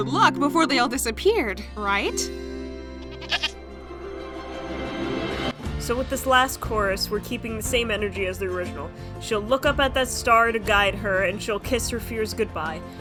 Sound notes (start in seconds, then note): 3.0 worried bleat